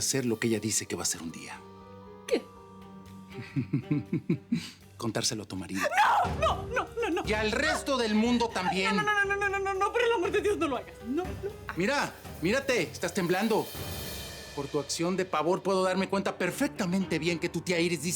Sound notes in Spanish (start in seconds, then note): 3.4 Risas